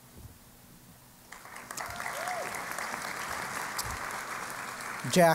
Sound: applause

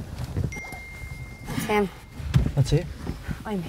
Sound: phone dinging

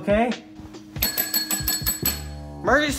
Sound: bell ringing

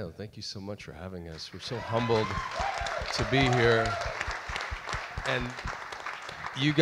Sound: audience applauds and cheers

